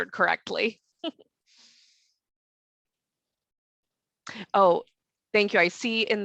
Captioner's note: giggles